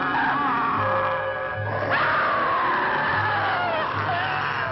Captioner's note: werewolf growling; Priscilla screaming